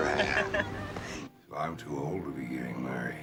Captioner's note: woman chuckles